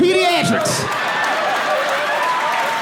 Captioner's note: audience laughing and cheering